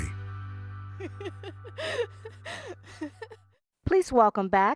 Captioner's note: giggles